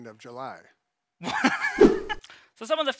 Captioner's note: laughs